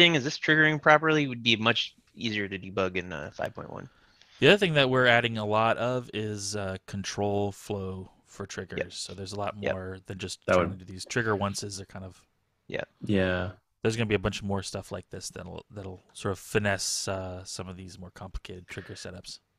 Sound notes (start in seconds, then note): none